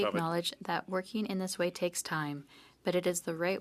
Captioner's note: speaking French